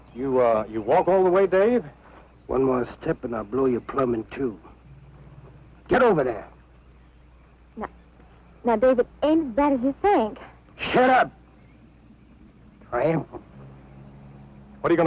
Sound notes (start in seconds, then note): none